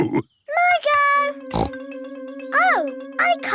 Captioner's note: snorts